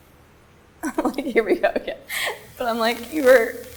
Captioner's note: chuckles